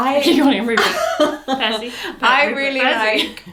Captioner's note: laughs